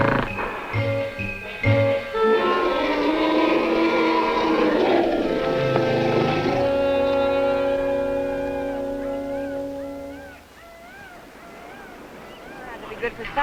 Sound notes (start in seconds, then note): 0.0 roaring; 1.7 speaking spanish